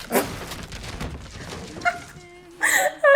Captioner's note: laughs